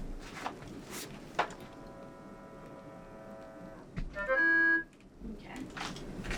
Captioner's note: machine humming